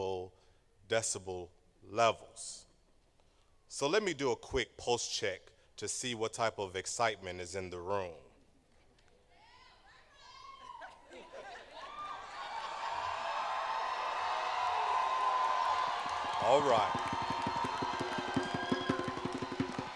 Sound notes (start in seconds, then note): 10.9 laughter; 12.6 cheering